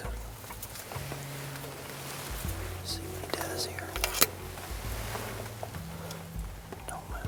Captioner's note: whispering